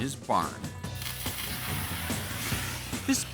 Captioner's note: thermic lance igniting